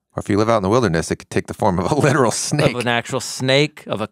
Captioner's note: laughs